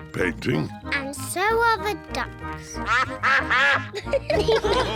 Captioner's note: quacking; all laugh